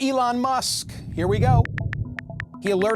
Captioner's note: phone buttons clicking